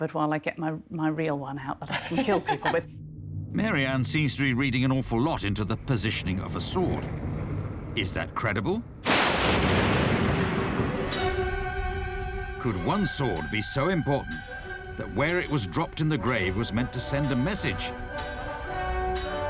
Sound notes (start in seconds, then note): 9.2 thunder